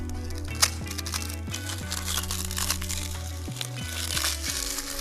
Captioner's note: crunching sound